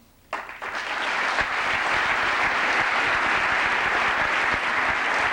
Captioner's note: applause